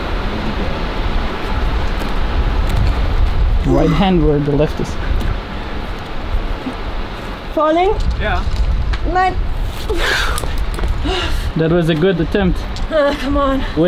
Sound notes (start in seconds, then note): 10.8 grunts